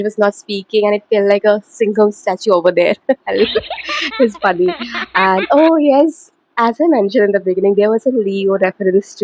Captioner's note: laughter